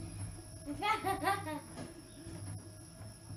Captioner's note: girl laughs